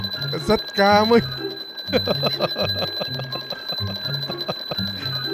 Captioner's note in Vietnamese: tiếng cười